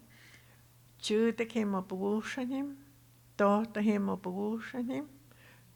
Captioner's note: speaking Tohono O'odham